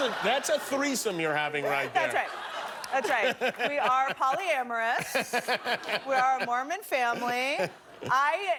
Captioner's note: laughter